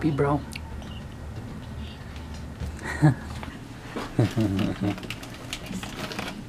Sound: whispers

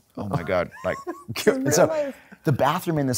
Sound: chuckling

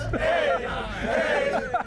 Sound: cheering

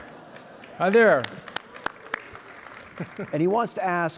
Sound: audience applauding

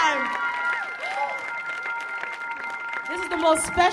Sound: audience cheers

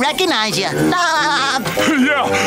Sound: laughing

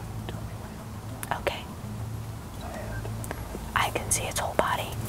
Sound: whispering

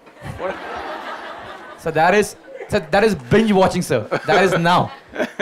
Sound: Sadhguru laughs

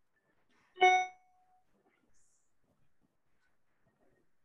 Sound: message dings

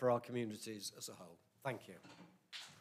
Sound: applause

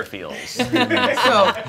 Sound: all laughing

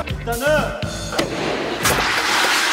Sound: sudden bang!

